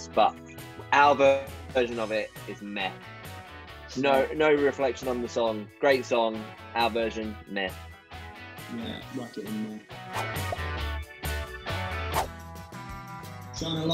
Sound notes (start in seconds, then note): 10.1 swooshing; 12.3 bright country music